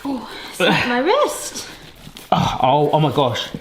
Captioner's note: grunting